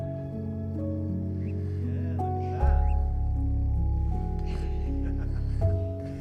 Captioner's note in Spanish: conversación apagada